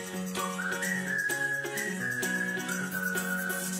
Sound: whistling

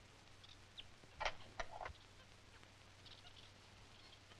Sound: lock clicking

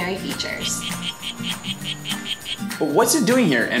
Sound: frog calling

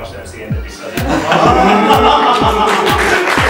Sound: laugh; applause

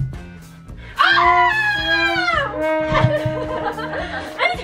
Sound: screaming

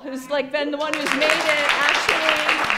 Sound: applause

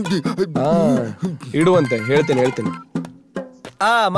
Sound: phone rings

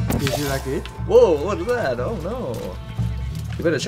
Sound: mockingly

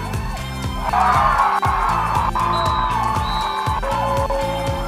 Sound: cheering

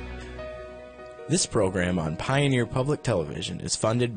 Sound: voiceover

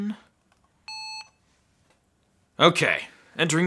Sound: beep

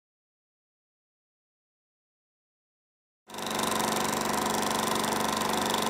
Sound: film reel sound

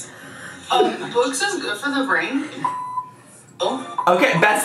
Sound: video beeps

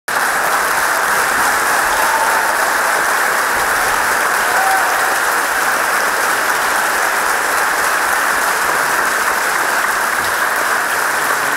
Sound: applause

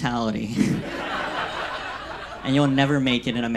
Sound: audience laughs

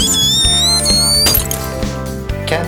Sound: glass Breaking Sound

